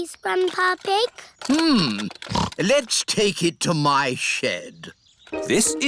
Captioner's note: snorts